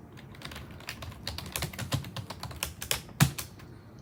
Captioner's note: more typing